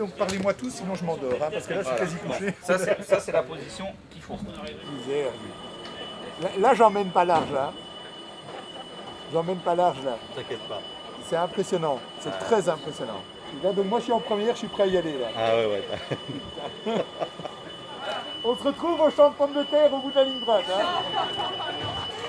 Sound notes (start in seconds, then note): 15.5 nervous laughter